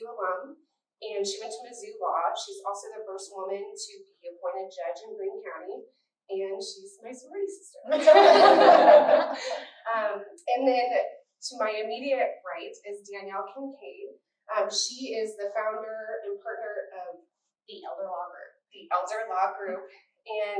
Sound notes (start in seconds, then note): 7.9 laughter